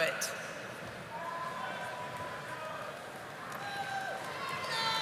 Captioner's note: audience applauding